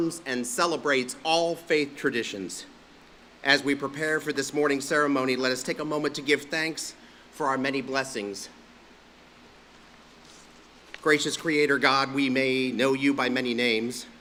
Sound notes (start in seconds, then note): none